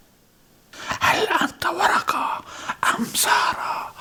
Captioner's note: whispering